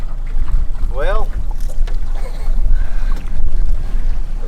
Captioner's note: laughs